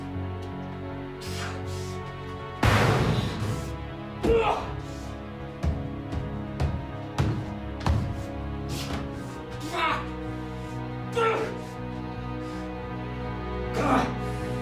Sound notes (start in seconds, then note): 2.6 banging; 10.7 tense instrumental music